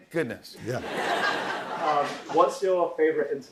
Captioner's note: laughter